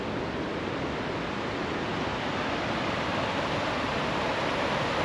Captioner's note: water sounds